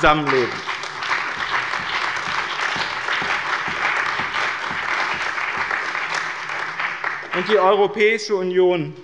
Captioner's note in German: Beifall bei dem BÜNDNIS 90/DIE GRÜNEN und der CDU